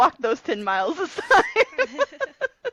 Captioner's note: laughter